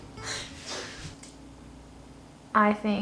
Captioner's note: chuckles